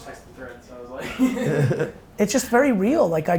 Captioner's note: laughs